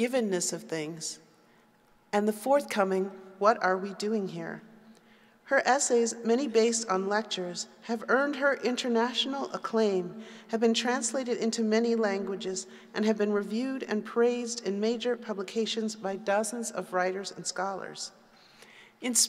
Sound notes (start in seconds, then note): none